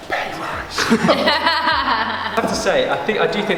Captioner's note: laughing